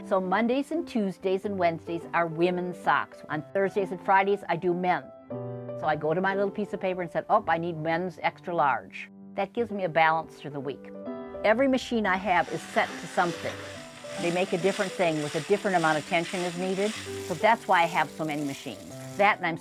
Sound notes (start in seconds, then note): 15.0 metallic whirring and cranking